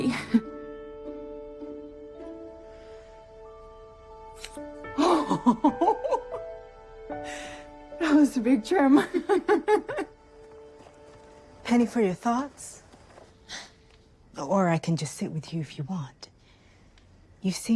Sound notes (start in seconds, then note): 5.0 laughs; 9.1 both laughing